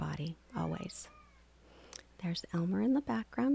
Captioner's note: cat meows